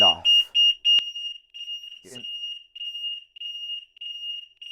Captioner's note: beeps